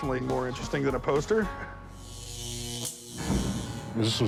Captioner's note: electricity zapping